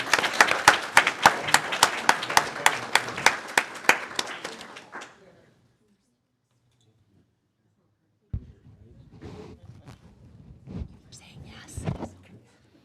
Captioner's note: applause